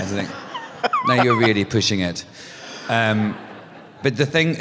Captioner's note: laughter; laughter